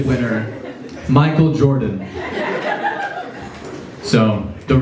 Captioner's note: laughs